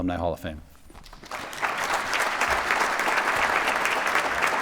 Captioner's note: applause